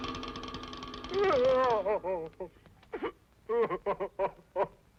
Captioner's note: sobbing